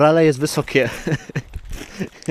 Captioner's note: śmiech